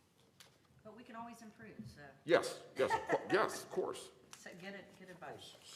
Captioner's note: laughter